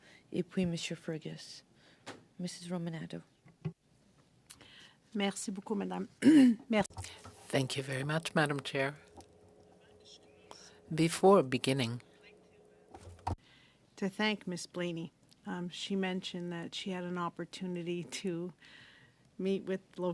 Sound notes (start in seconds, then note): 11.8 speaking french